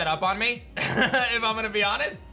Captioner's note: laughs